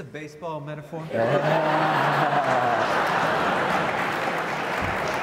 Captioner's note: audience laughs